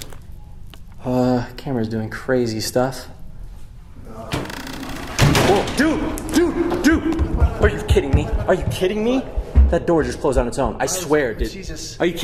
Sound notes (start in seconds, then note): 4.3 door creaking and slamming